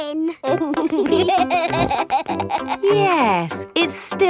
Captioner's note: laughing